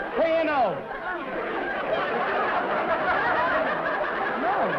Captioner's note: laughter